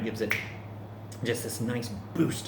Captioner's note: snaps fingers